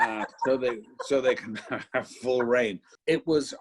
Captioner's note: laughs